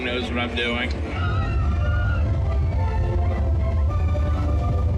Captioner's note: riders screaming